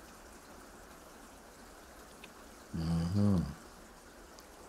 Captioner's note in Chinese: 沉默